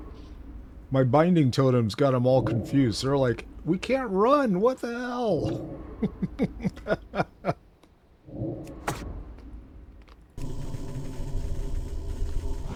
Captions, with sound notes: My binding totem's got them all confused. They're like, "We can't run, what the hell?" (laughs) (suspenseful music)